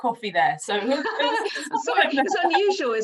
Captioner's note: laughs